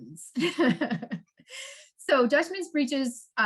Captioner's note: laughs